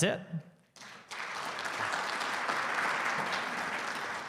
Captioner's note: audience clapping